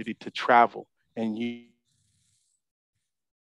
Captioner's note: audio cuts out